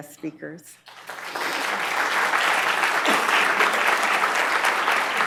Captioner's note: applause